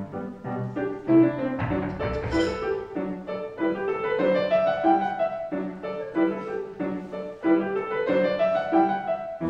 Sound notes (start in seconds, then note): 0.0 quirky music; 1.6 Miss Pinkerton knocks on door; 6.5 quirky music continues